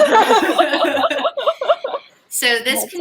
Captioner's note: surprised laughter